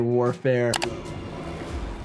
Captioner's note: suspenseful music; mouse clicking